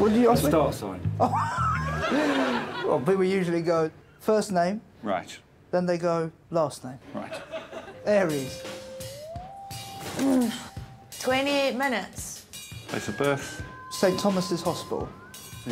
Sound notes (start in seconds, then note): 1.2 laughing; 10.1 Fern frustrated groan